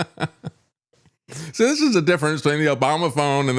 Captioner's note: laughs